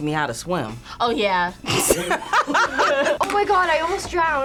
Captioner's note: both laugh